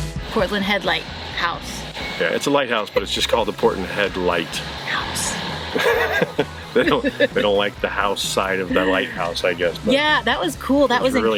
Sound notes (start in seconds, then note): 5.7 laughing